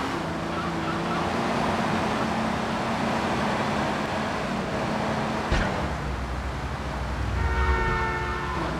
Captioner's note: horn honking